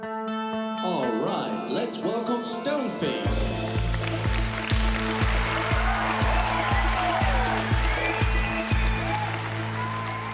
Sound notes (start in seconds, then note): 3.6 applause; 3.6 cheering and applause